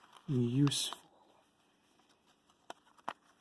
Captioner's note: paper rustling